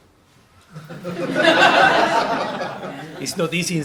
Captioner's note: laughter